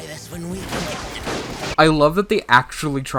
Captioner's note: gunshots